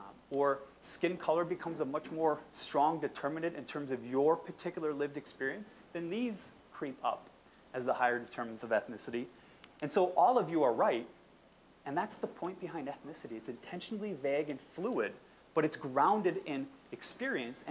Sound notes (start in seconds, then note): none